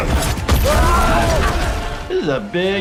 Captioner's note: characters yelling